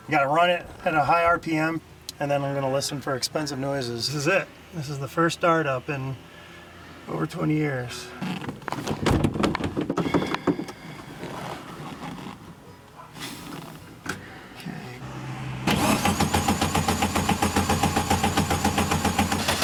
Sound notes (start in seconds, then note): 8.2 seat rattling; 10.4 sighs; 15.0 Beetle engine sputtering